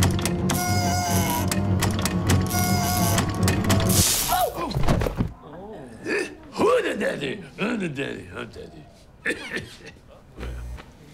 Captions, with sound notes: Ooh! Who the daddy? I'm the daddy. I'm daddy. (Laughs) Yeah.